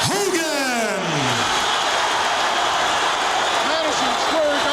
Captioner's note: audience applauding; audience cheering